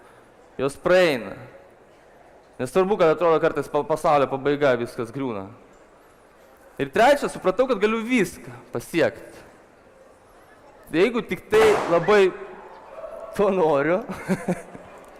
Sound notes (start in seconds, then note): 11.6 boom - a balloon exploded